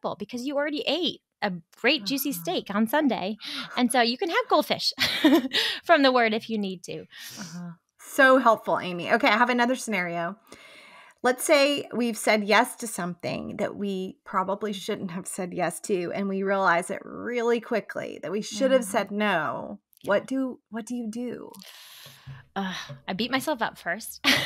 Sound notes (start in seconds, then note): 5.0 giggles; 22.4 sighs